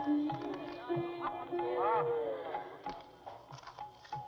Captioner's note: gasping, Exclaiming